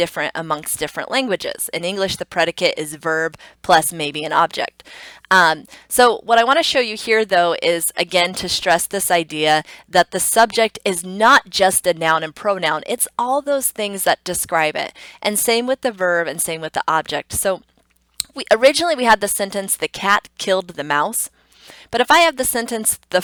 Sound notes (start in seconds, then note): 18.1 tongue clicks